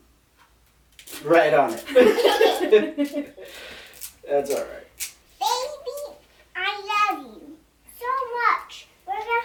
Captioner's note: laugh